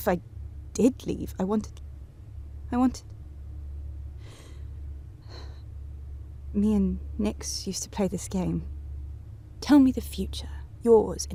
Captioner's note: sighs